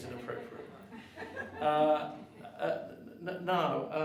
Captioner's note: audience chuckles